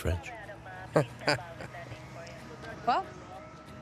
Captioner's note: laughs